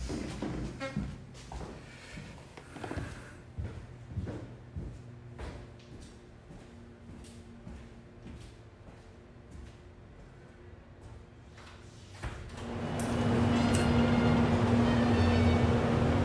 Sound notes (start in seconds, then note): 13.1 busy street sounds with horn playing